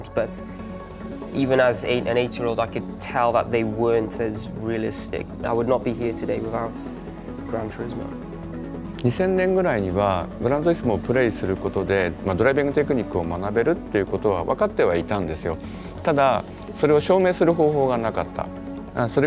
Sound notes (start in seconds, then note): 8.9 Kazunori speaking in Japanese